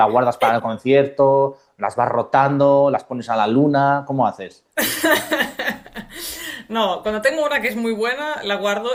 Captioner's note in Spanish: risas